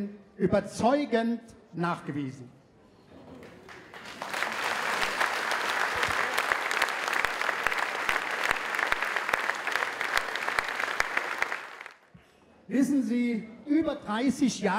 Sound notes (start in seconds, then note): 3.4 applause